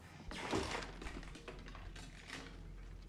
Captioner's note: clattering